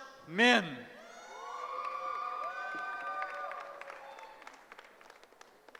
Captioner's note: cheering